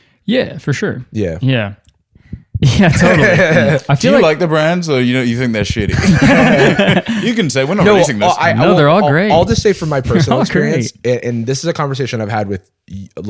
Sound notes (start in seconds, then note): 2.6 laughing; 5.6 laughter